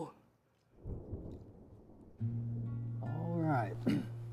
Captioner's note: thunder rumbling